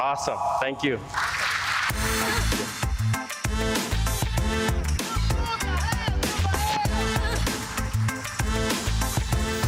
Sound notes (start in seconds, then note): 1.1 audience applauding